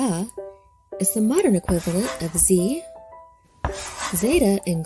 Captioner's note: chalk scratching